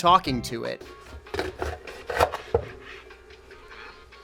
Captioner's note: chopping noise